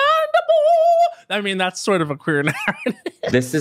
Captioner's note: laughs